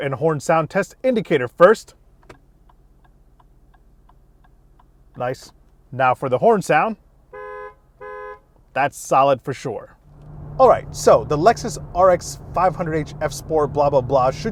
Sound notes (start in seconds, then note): 2.0 indicator ticking; 7.3 car horn beeping